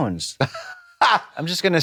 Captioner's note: Trixie chuckles